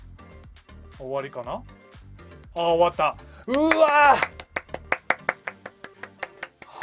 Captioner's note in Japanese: 拍手